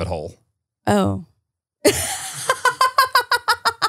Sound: laughing

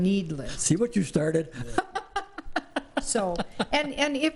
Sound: laughing

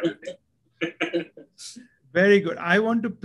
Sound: laugh

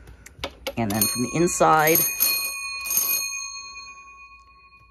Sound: bell ringing

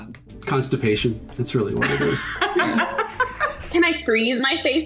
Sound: laughs

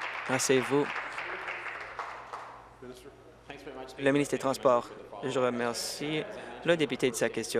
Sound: applause

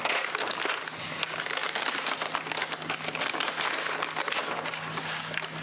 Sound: crunchy plastic/paper sounds; more crunchy sounds

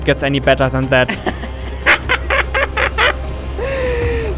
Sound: crazy Laughter

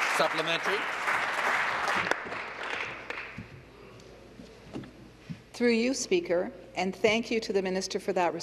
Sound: applause

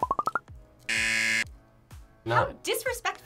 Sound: buzzer

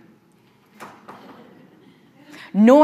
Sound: audience softly chuckling

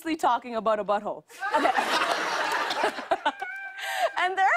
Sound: laughter

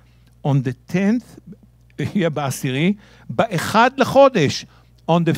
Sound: speaking in Hebrew

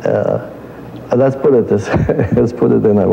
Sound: laugh

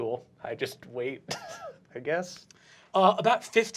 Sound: chuckles

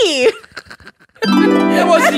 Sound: chuckling; melodic Harp

